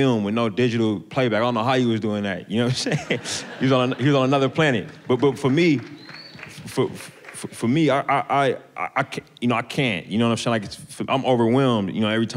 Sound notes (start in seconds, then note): 2.6 laughter; 6.1 audience applause